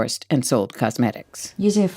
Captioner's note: soundbite of archived recording